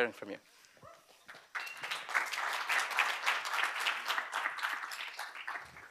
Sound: applause

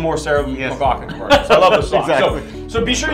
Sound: laughs

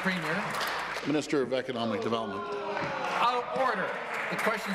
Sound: applause

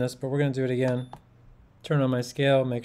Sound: scale beeps

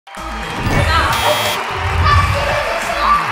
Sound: yelling

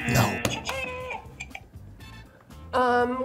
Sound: buzzer; buzzer rings

